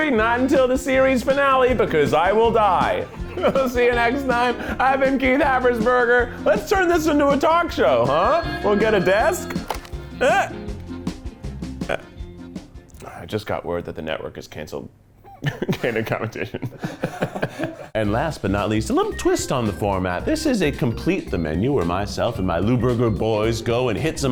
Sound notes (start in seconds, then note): 8.5 phone rings; 16.4 laughs